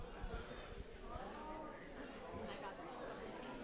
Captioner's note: group chattering